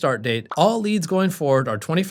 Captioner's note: bubble popping